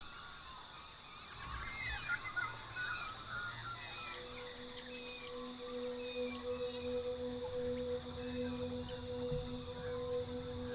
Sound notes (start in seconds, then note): 0.1 birds chirping; 4.0 gentle music; 7.0 birds chirping continues